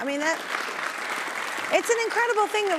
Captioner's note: audience applauding